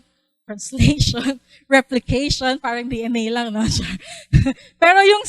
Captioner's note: laughs